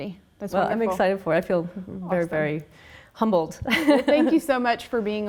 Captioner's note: laughs